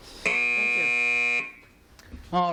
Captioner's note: buzz